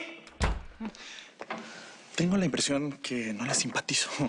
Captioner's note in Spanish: Sonido al cerrar la puerta